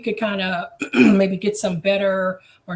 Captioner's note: coughs